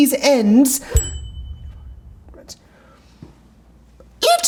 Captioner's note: bell dinging